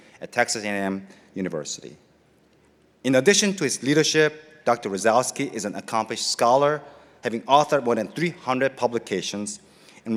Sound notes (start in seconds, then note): none